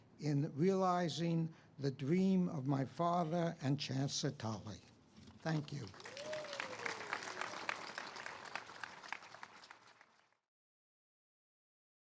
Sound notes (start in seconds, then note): 5.6 audience cheers and applauds